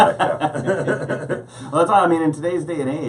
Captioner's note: laughing